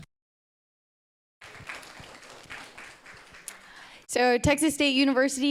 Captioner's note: audience applauding